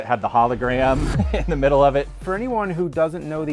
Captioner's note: laughs